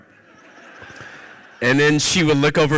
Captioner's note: audience laughs